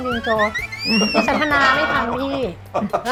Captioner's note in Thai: หัวเราะ; เสียงหัวเราะ